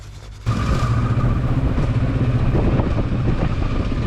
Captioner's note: motorcycle revving